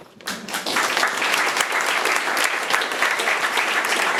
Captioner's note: audience applauding